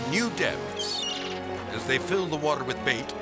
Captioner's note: gull crying